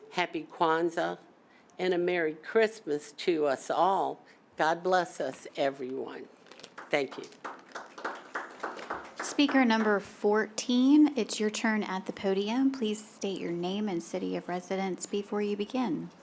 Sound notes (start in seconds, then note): 6.6 applause